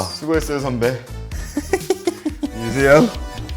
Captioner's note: haha